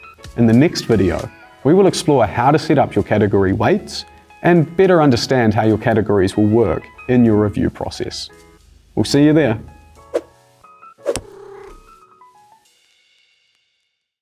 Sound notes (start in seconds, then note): 11.0 whoosh; 11.1 cat purrs